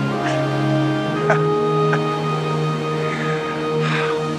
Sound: laughs

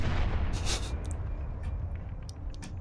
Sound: hmhmhmph

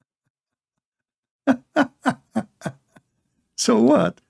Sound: Ketawa

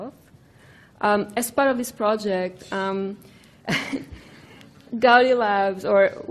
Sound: laughs

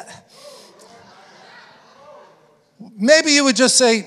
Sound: congregation laughing

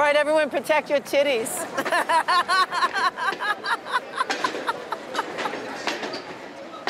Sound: manic laughter

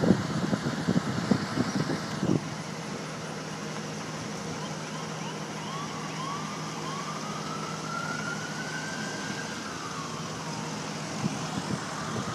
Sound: siren noises

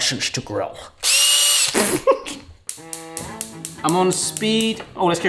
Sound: drill whines

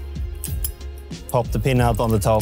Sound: clink

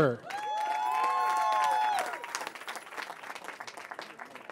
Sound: cheering

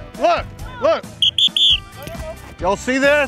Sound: whistle blows

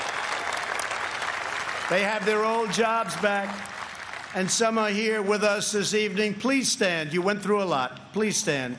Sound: applause

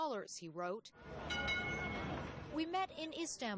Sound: bell ringing

